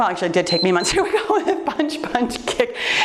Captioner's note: timer beeps